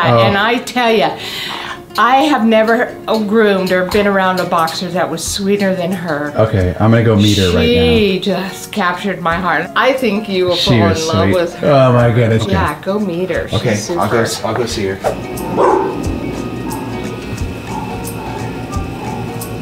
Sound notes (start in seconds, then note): 15.5 screen swooshes